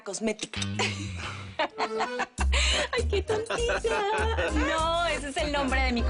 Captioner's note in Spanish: Risas